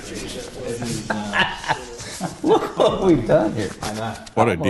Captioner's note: laughs